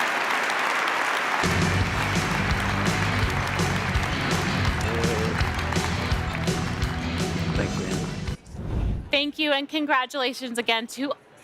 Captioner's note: applause